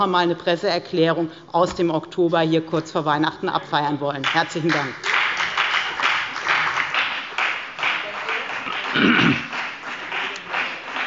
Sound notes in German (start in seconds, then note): 4.2 Beifall bei der FDP